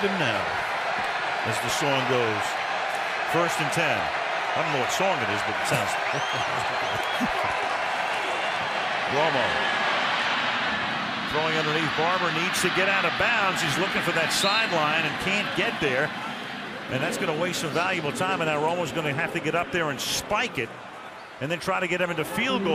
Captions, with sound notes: And look at him now, as the song goes. First and 10-- I don't know what song it is, but it sounds-- [laughter] Romo throwing underneath, Barber needs to get out of bounds. He's looking for that sideline and can't get there. And that's going to waste some valuable time. And now Romo's going to have to get up there and spike it and then try to get